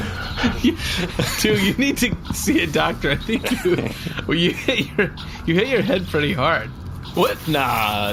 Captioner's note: laughter